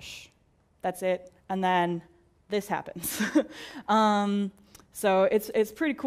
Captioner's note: laugh